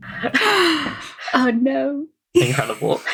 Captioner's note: gasps